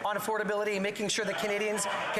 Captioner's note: some Applause